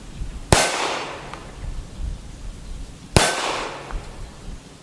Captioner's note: gun fires